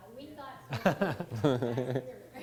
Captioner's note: laughter